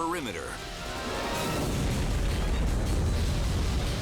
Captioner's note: fire roaring